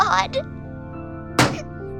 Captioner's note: crying